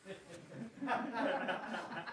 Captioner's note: laughter